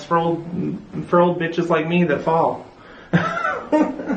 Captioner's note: laugh